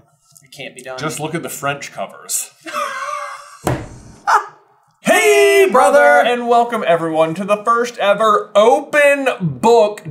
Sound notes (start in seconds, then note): 2.6 laughter